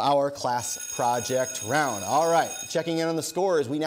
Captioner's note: bell ringing